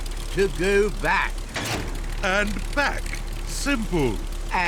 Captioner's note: lever clunks